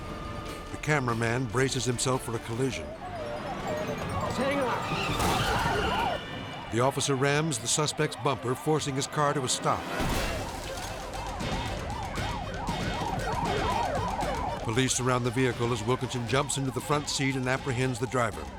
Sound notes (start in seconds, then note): 9.6 car ramming; 11.2 sirens screaming